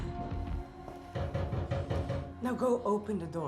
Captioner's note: knocking on door